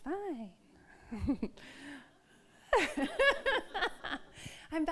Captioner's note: all laugh